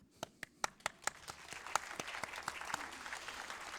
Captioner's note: applause